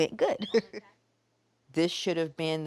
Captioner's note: chuckles